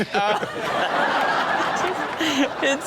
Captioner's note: audience laughs